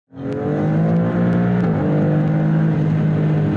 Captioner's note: car engine revs